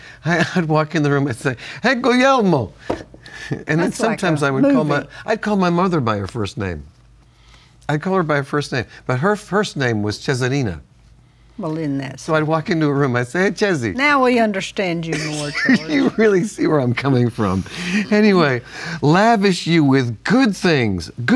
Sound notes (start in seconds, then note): 15.2 laughs